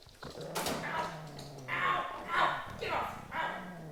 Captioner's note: dog growling and man screaming